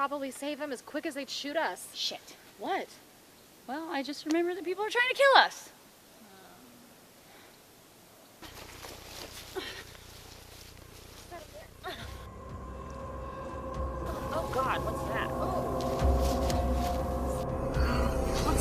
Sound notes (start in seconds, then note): 6.2 dragging; 6.2 gasping